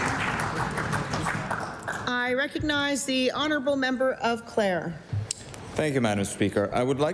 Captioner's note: applause